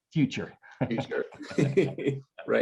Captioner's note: both chuckles